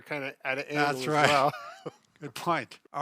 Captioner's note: laughing